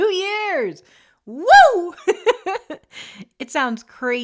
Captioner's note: trails off into happy laughter